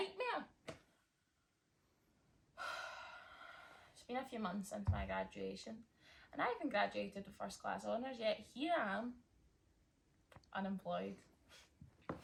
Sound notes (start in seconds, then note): 2.6 sigh